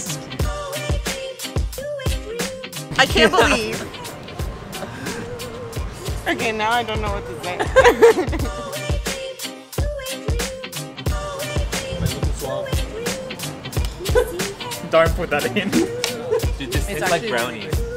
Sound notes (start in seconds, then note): 7.4 laughs